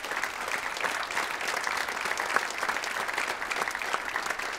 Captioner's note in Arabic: تصفيق